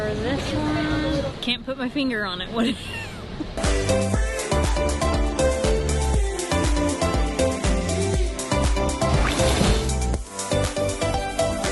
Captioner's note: laughs